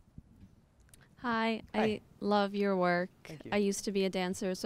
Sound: voiceover

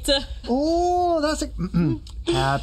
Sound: clears throat

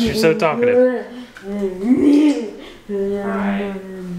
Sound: chatting

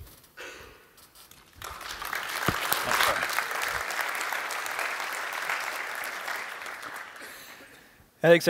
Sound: applause

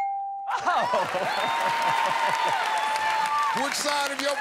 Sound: laughs

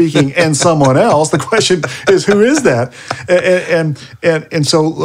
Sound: laughing

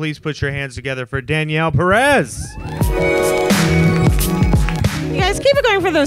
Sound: audience cheers

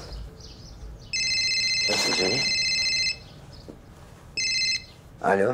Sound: phone rings

